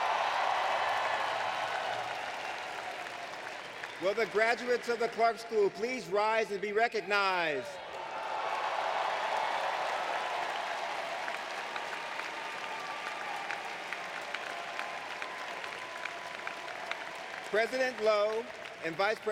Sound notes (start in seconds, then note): 0.3 applause; 12.8 applause